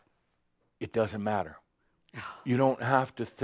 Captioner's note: sighs exasperated